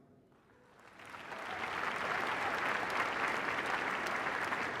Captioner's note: applause